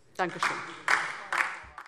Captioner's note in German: Beifall DIE LINKE